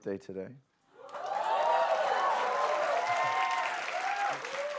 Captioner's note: cheers and applause